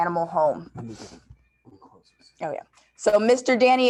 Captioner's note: faintly speaking